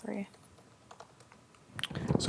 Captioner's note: computer keys clacking